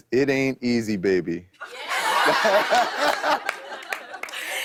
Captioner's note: laughter